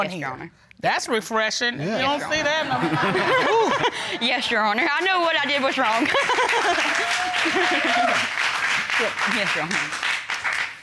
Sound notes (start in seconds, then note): 2.8 chuckles; 5.5 audience applauds; 6.1 chuckles